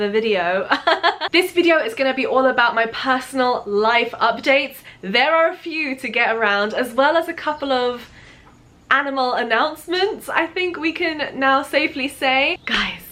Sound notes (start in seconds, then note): 0.8 nervous laughter